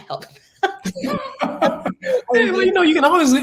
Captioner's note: laugh